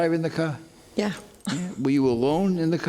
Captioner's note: laughs